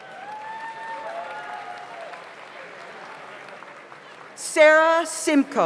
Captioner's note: audience cheers; audience applauds